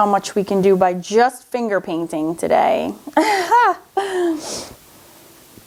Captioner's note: laughs